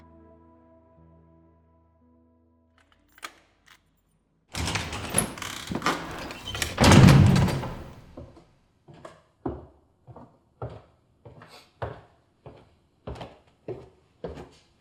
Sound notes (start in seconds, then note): 4.5 door opening and closing; 9.0 footsteps